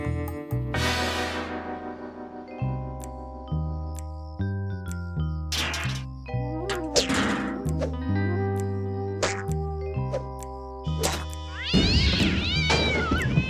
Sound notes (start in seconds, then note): 11.5 cat yowls